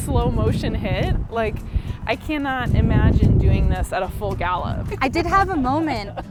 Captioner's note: laughs